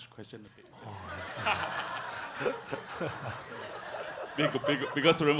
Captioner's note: audience laughs